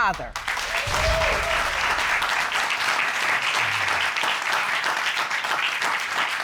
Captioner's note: audience applauding